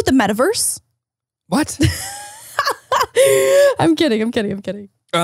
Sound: laughing

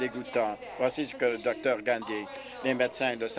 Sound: applause

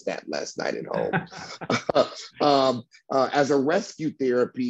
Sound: laughter

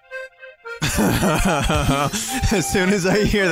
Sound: vaguely menacing laughter

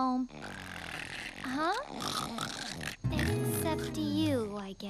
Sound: snoring

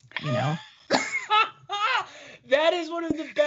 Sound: laughing

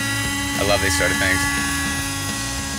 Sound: helicopter whirring

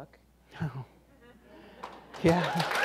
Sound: applause

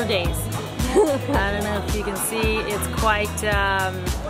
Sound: laughter

